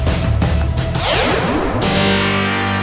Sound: swooshing; moves into dramatic music

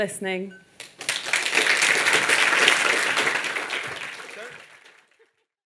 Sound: audience applauding

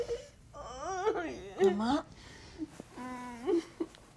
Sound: moaning

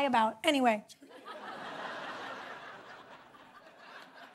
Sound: laughter

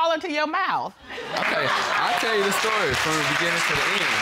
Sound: audience applauding

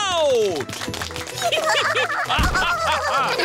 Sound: applause; all giggling

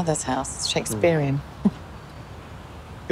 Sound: chuckles

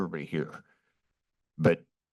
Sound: pause

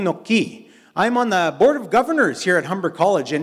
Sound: in English

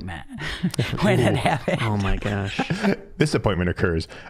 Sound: laughing

